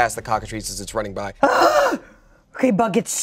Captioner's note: groans